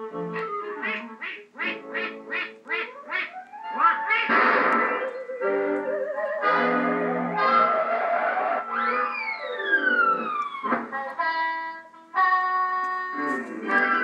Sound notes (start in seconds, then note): 4.3 bang; 8.6 Screech